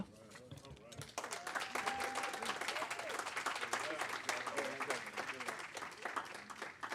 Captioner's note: applause; cheering